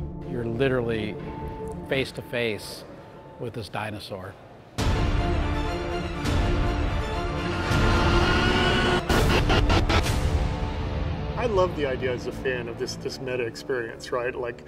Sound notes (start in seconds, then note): 4.8 energetic music; 7.8 Indominus Rex roaring